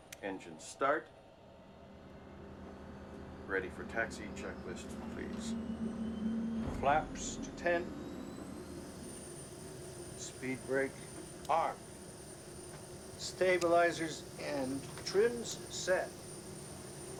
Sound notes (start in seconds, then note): 2.1 rumbling